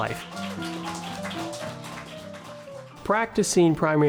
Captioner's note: audience clapping